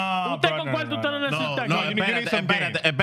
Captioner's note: speaking In Foreign Language